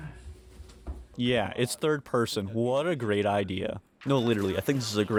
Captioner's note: sarcastically